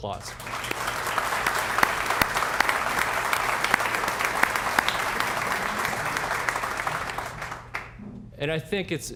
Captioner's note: applause